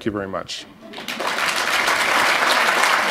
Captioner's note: applause